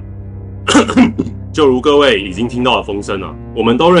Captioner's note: ahem